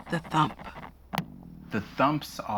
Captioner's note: thump